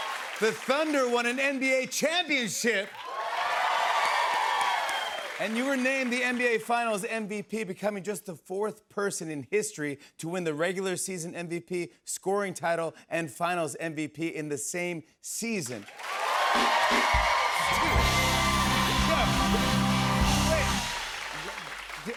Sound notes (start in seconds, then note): 0.0 cheers and applause; 2.8 cheers and applause; 15.8 cheers and applause